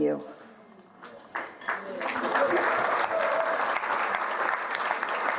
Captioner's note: audience applauding